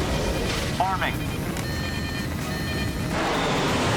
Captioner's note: alarm